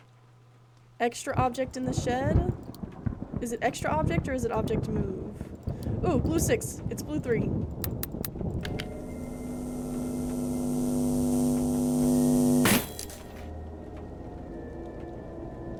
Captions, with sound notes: Extra Object in the Shed. Is it Extra Object or is it Object Move? Ooh! Blue 6! It's Blue 3! [Loud Buzzing] [Glass Shatters]